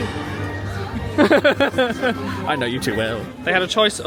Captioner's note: laughing